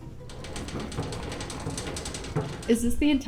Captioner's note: machine clatters